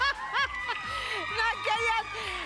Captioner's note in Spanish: Risas